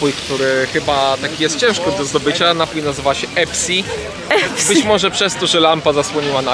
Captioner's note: laughs